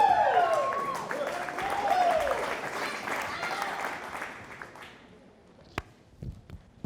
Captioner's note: audience applauding